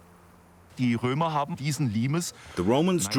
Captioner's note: speaking German